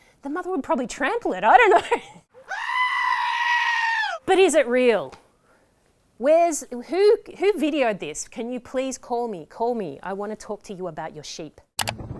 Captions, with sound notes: the mother would probably trample it. I don't know. (SCREAMING) But is it real? Where's? Who? Who videoed this? Can you please call me? Call me? I want to talk to you about your sheep.